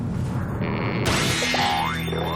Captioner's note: boing